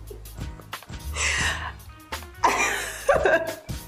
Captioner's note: laugh